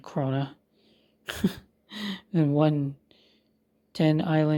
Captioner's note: chuckles